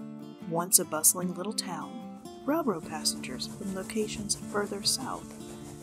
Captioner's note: steam Locomotive Sounds